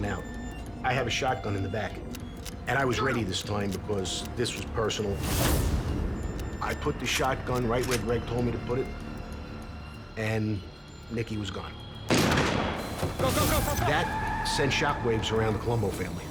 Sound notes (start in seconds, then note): 12.1 gun shot; 16.1 sirens